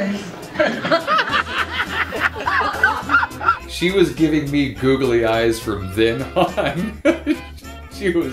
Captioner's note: laughter